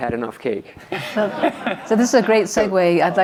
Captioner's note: audience laughs